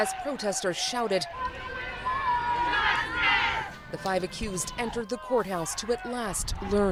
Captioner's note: crowd noise